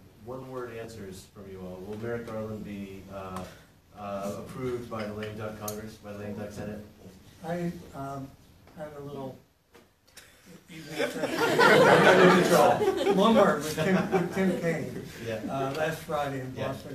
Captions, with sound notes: One word answers from you all. Will Merrick Garland be approved by the lame duck Congress, by the lame duck Senate? I have a little-- [LAUGHTER] Bloomberg was at the campaign last Friday in Boston,